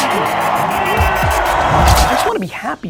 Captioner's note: crowds cheering